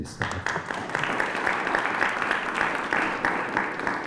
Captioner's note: applause